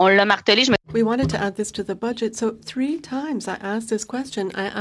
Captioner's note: speaking in french